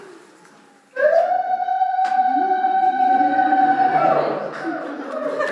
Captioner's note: zaghrouta from local attendee